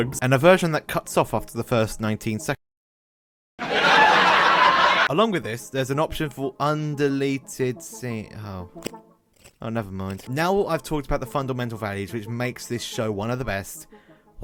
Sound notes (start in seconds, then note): 3.6 laughing